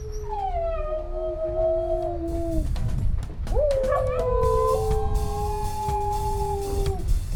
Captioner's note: howling